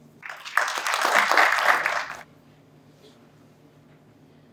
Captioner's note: applause